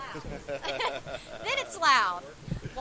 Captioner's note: both laughing